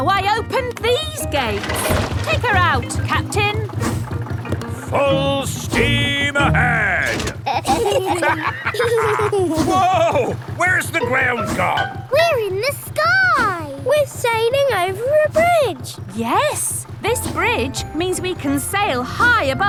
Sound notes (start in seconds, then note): 7.0 lever clangs; 7.3 kids and captain dog laughing